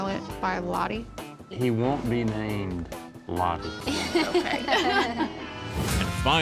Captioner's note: laughter